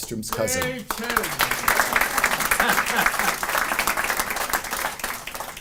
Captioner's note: cheering and laughing